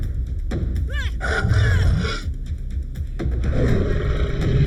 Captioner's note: shark roars; Paige grunting; shark roaring; shark growling